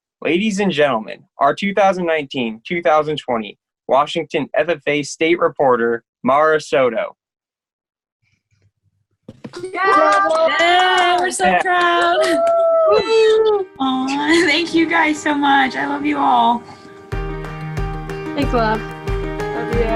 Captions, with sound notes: Ladies and gentlemen our 2019-2020 Washington FFA State Reporter Mara Soto. [Team exclaims affectionately]. Thank you guys so much. I love you all.